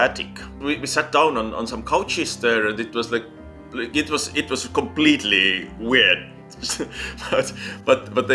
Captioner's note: chuckles